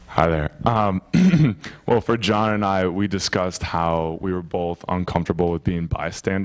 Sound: clears throat

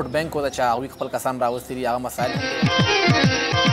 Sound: speaking in foreign language

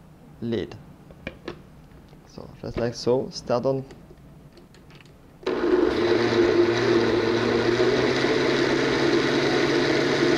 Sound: blending sounds

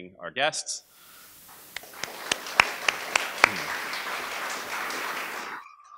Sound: applause

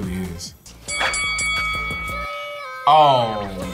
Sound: bell rings

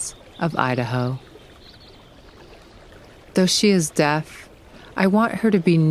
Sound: continual sound of stream running smoothly and steadily

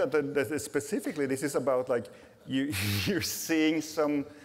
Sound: laughs

